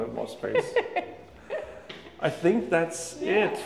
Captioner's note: laughs